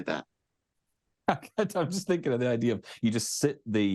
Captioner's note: laughs